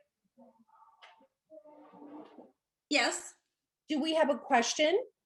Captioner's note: none